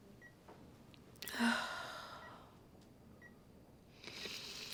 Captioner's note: Ashley sighs; Ashley snivels